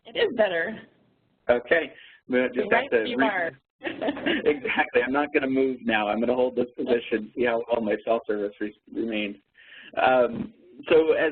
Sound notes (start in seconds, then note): 3.8 laughs